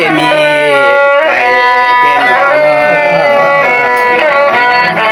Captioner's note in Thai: ปรบมือ